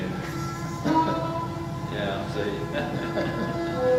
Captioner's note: laughs; chuckles